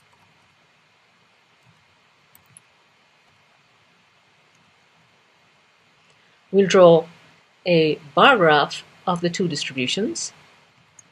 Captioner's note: pause